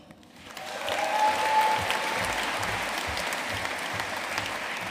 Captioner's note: audience cheering and applauding